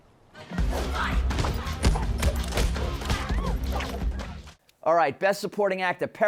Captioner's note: intense fighting